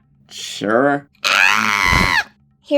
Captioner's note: screaming